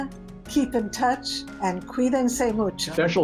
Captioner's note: speaking spanish; speaking spanish